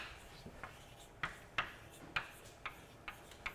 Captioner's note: chalk tapping